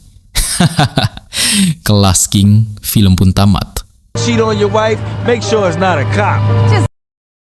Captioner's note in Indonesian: tertawa